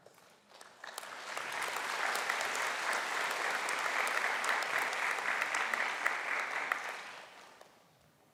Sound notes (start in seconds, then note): 0.0 clapping